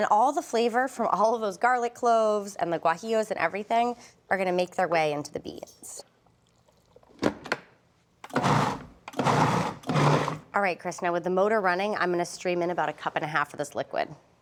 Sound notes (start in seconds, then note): 8.2 processor whirring